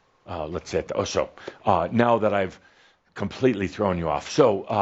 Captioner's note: none